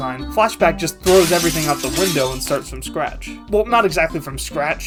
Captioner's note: glass shattering